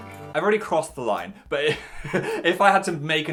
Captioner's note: laughs